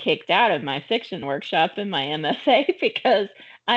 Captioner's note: chuckling